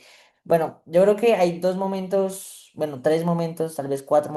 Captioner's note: speaking spanish